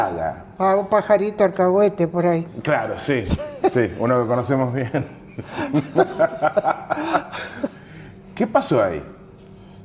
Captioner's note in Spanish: risas